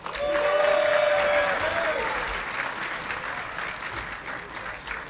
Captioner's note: audience clapping and cheering